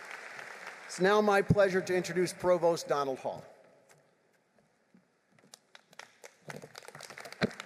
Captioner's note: applause